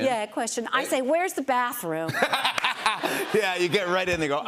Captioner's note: laughs